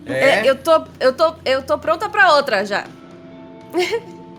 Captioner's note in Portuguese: Risos